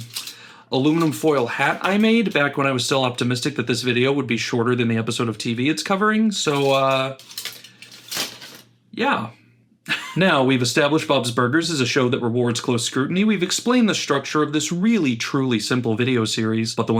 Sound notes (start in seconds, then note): 6.4 aluminum foil crinkling as I throw it